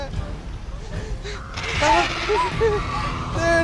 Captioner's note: animal chittering